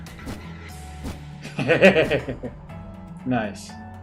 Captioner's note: laughs